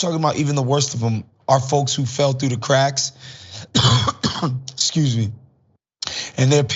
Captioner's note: cough